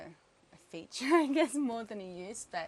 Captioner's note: laughing